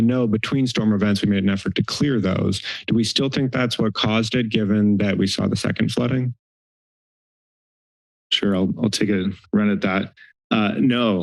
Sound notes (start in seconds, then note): 6.7 silence